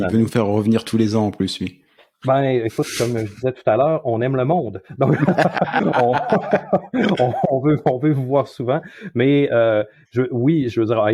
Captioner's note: laughs